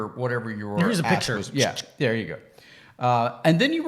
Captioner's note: clicks tongue